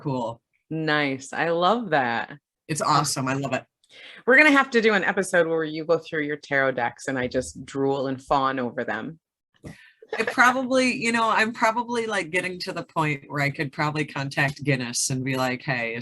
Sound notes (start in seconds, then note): 10.0 giggles